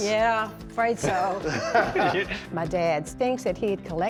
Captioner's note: laughter